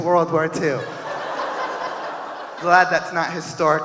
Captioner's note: audience laughing